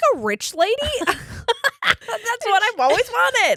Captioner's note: laughing